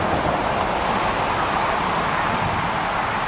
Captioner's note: traffic Noise